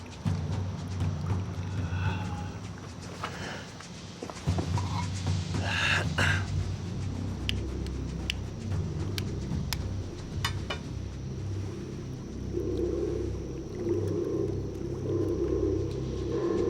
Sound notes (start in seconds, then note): 4.7 Roots grunting; 8.8 tense music